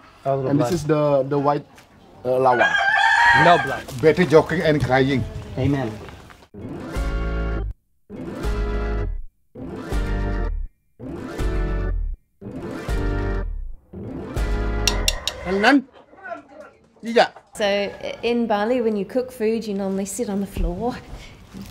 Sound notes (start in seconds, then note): 6.7 upbeat music; 15.6 foreign speaking